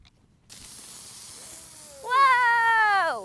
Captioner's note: fizzing